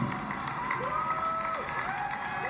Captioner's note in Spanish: Aplausos a Steve jobs